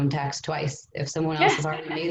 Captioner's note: laughs